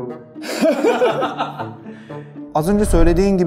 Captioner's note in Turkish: Gülüyorlar